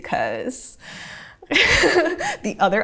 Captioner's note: laughing